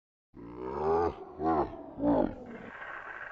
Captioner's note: strange Laughter